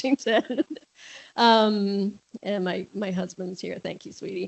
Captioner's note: laughs